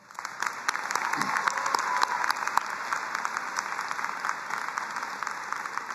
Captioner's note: both applauding